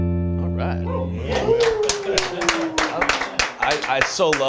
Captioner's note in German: applaus